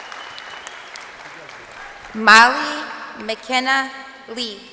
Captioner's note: crowd cheering